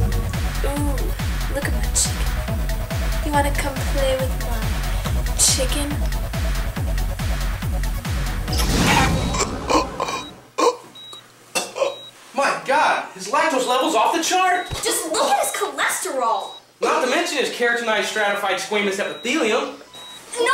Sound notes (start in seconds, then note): 2.1 upbeat music playing; 8.9 Dwight chocking